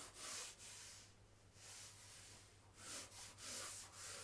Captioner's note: pencil scratching